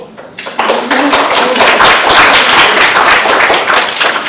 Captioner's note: audience clapping